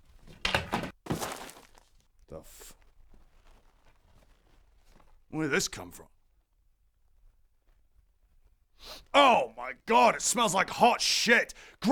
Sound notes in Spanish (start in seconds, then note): 0.4 golpe seco; 0.6 splat; 8.8 sniff